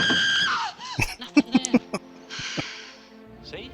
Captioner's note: laughing